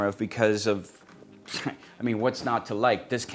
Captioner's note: scoffs